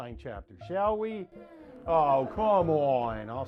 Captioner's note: class sigh